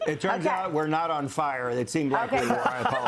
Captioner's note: laughter